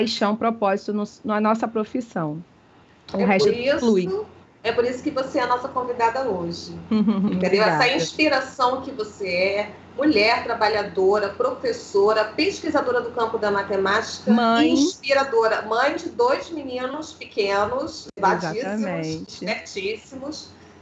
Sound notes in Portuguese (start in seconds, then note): 6.9 riso